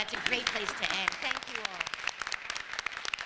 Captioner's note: applause